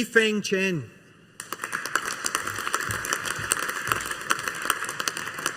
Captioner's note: audience applauding